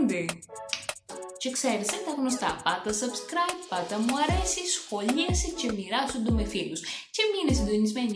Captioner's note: In Cretan accent